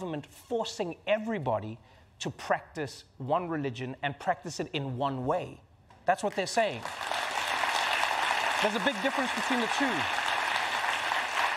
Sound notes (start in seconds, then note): 6.6 applause